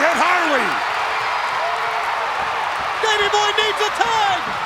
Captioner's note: crowd cheers